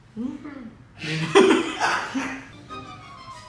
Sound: laugh

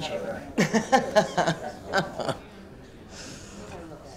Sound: woman laughing

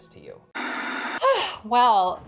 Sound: static buzzing

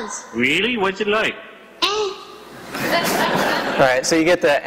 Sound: laughter

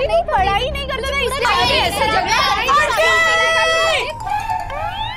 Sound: everyone arguing

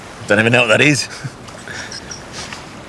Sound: laughs; sniffing

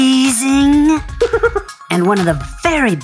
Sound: Dr. McTinker laughs

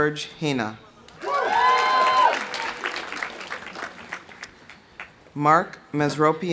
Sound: audience cheering; audience applauding

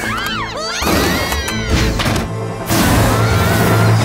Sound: all scream

